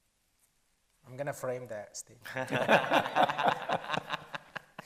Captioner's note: panel laughs